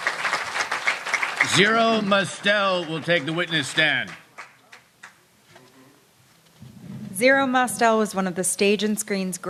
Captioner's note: applause